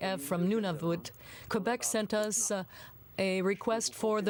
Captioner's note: speaking french